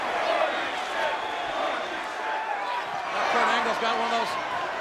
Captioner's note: audience chanting